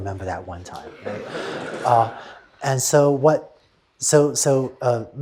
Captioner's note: laughter